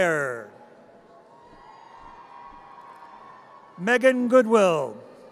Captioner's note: audience cheers